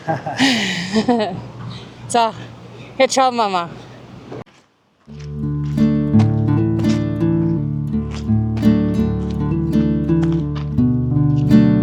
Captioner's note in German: gelächter